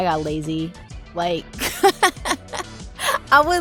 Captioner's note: laughing